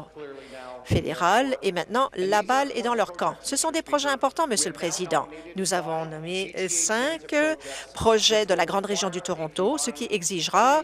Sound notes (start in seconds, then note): none